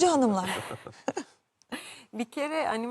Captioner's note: laughter